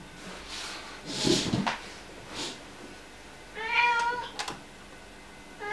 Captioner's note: aggressive meowing continues